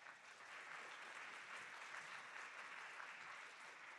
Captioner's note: audience clapping